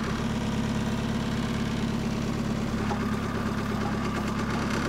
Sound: engines

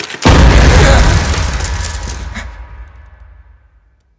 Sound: loud bang

